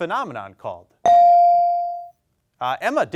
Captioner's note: bell dings